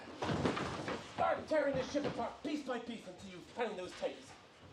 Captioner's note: British accent, muffled